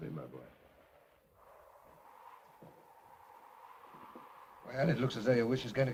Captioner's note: wind blows